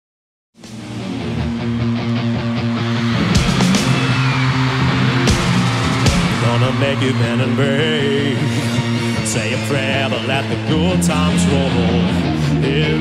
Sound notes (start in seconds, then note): 1.0 energetic music; 4.0 crowd cheers